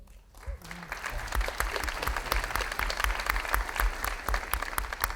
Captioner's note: audience applauding